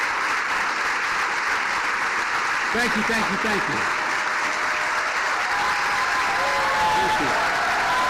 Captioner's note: cheers and applause